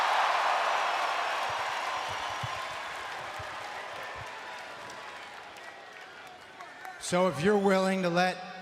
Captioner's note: applause